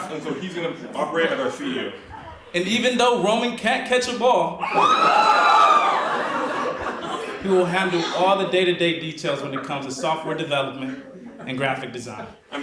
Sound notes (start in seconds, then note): 5.6 audience laughs